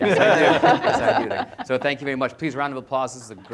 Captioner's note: panelists laughs